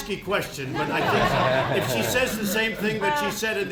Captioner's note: laughter